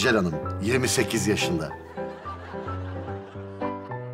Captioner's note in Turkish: Gülme efekti